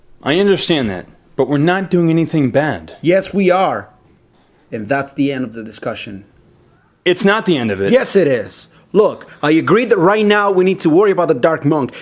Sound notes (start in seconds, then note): none